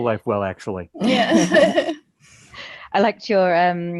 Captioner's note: all laugh